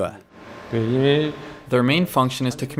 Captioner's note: speaking foreign language